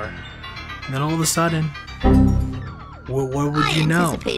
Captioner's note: heavy beep